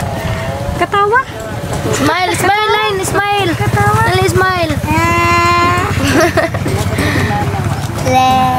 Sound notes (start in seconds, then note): 4.8 children laughing